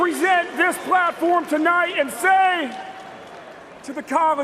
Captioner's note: cheers and applause